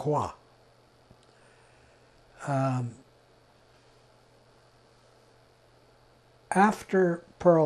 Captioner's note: pauses 6 seconds